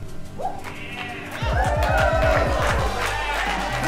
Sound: congregation cheering; upbeat music

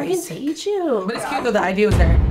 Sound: door knocking

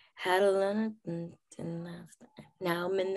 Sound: humming

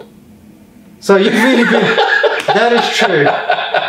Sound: laughs

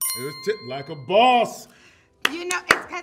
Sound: bell chimes

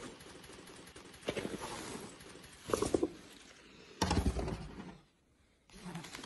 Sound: loud movement

